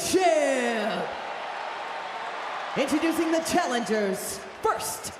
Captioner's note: crowd cheers